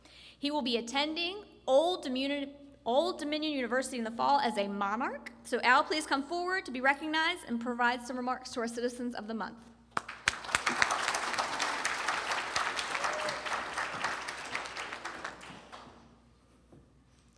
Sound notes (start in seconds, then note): 9.9 applause